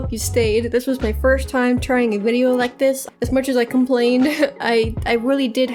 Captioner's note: laughs